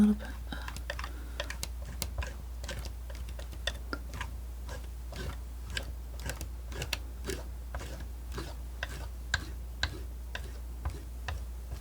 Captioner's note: tapping